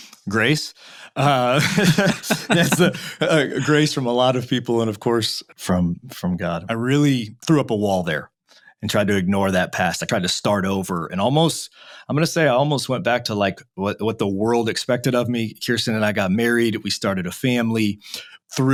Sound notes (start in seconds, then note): 1.1 laughing